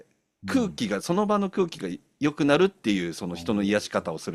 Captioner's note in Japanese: 咳払い